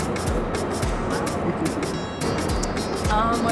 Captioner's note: laughs